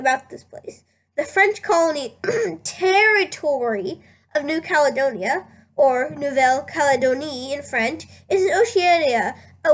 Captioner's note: ahem